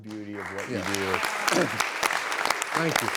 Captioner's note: clapping